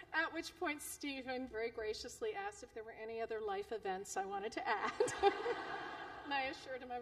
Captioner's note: laughter